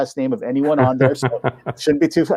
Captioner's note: laughing